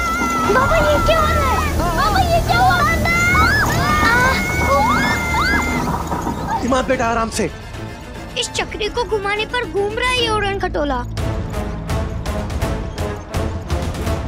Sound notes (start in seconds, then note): 3.7 screaming; 11.4 tense music playing